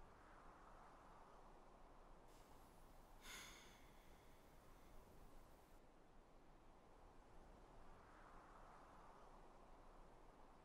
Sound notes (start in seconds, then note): 3.2 Ellie sighs